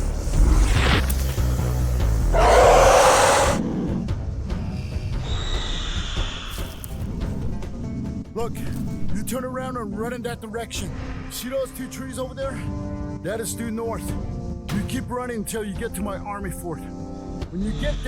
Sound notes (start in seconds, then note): 0.5 tail scraping ground; 2.3 angry roar